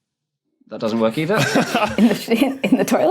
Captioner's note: others laughing